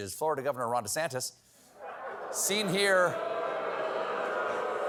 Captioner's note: booing